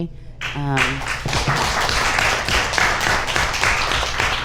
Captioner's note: audience applauds